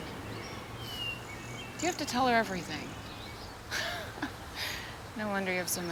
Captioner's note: chuckles